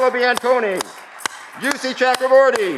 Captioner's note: audience clapping